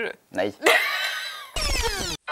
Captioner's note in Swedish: Skratt